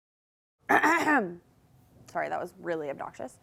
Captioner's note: clears throat